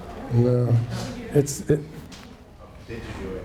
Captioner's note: students murmur